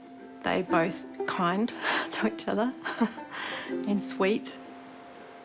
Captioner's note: chuckles